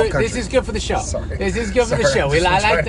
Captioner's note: laughs